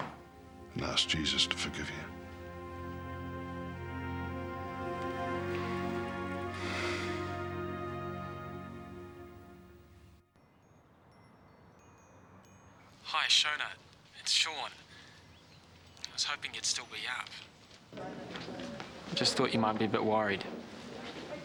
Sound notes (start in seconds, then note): 10.3 ringing of wind chimes